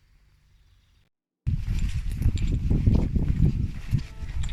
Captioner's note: steps and wind